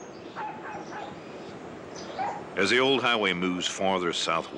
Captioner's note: dog barking